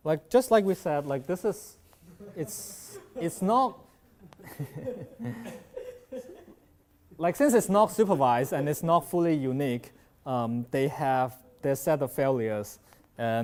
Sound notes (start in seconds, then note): 2.2 laughs; 4.1 chuckles